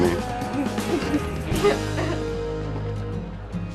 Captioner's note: CHUCKLlNG